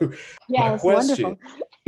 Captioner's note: chuckles